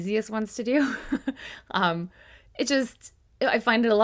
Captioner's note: giggling